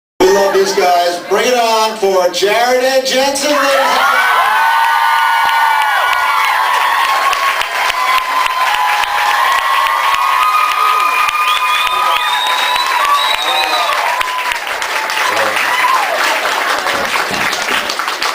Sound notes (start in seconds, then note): 6.6 screams, cheers, applauds; 14.5 applauds; 17.3 thumps mic; 17.8 applauds